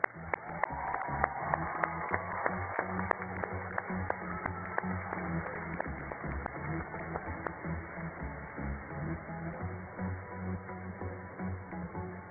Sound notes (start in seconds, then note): 0.0 cheers and applause